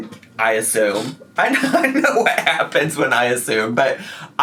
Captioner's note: laughing